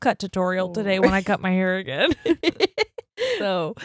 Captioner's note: laughing